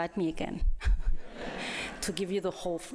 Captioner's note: laughter